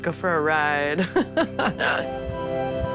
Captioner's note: chuckles